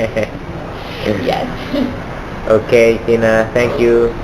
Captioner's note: laughter 00:06:58